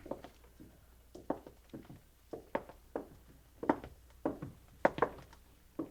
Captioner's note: footsteps thudding